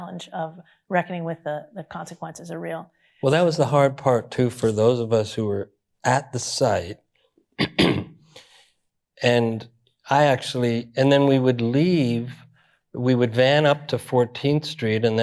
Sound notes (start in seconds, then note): 7.6 clears throat